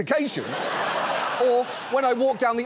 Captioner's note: audience laughs